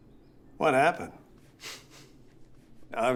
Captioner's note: laughs